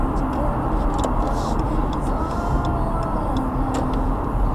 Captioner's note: indicator sounds